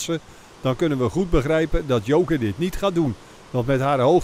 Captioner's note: voiceover